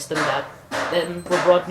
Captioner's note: watch beeps